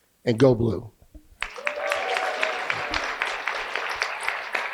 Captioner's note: applause